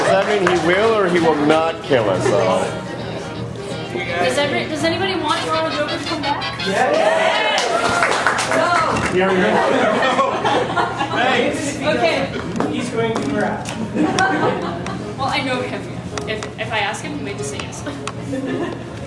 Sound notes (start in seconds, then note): 7.5 applause; 9.2 laughter